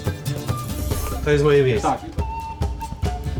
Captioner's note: speaking Polish language